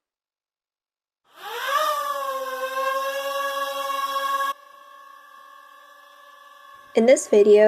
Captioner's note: drone whirring